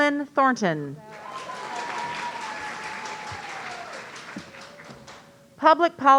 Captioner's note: audience cheering